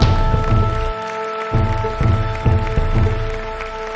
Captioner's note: audience applauding